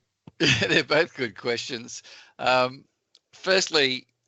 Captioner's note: chuckles